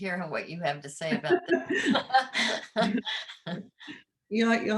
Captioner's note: laughing